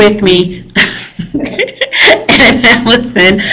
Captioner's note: laughing